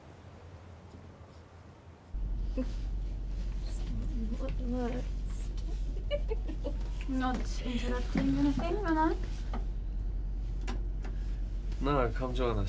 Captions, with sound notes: [giggling] I'm not interrupting anything, am I? No, come join us.